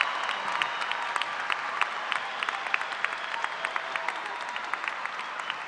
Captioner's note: cheers and applause